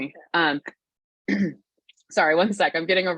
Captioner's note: clears throat